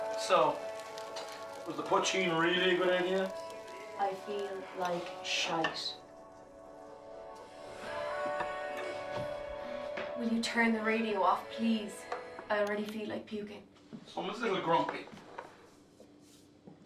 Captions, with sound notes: So, was the Poitín really a good idea? I feel like shite. [sizzling stops] Will you turn the radio off, please? I already feel like puking. Someone's a little grumpy.